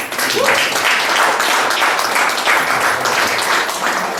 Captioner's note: guests applaud